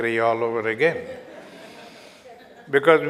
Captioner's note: audience Laughter